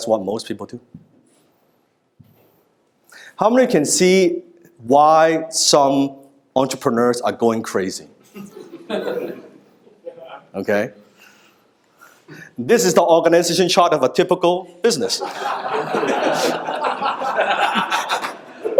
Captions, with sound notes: That's what most people do. How many can see why some entrepreneurs are going crazy? (audience laughing) Okay. This is the organization chart of a typical business. (audience laughing)